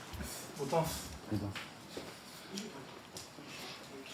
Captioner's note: speaking Japanese